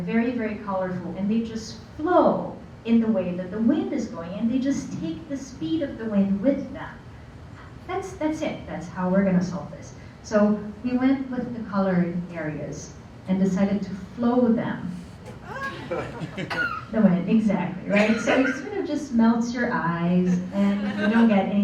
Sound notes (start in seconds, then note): 15.5 laughter